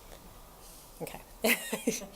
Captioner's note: laughs